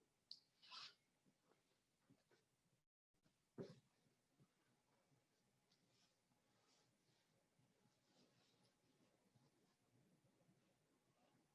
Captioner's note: silence